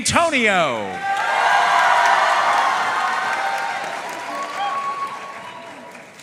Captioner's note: audience cheering and applauding